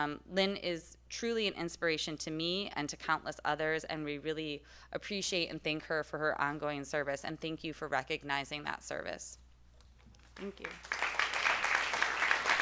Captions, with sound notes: Lynn is truly an inspiration to me and to countless others and we really appreciate and thank her for her ongoing service and thank you for recognizing that service, thank you (applause)